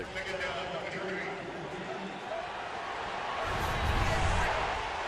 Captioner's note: crowd cheering